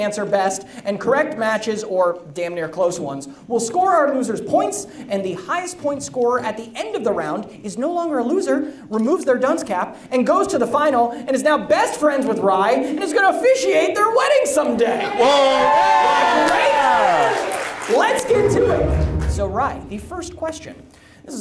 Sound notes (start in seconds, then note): 14.8 audience cheers